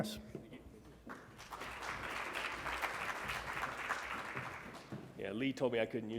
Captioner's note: congregation clapping